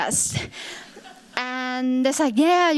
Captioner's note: chuckling